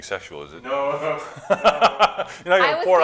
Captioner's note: laughing